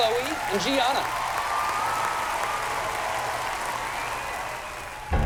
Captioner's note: cheering